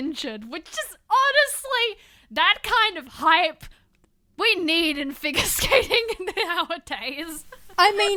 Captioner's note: laughter